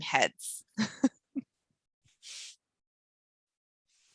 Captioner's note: laughs